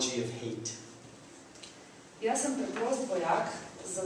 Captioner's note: non-english speech